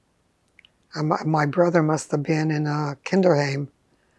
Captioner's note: german